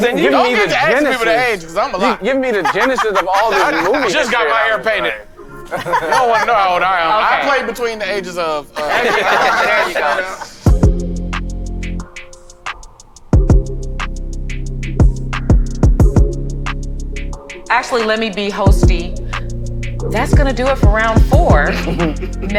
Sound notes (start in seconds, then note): 8.7 all laughing; 10.6 bright upbeat music